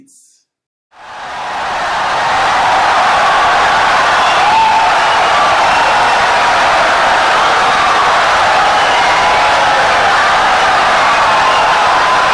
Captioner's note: wild applause and cheering for 17 seconds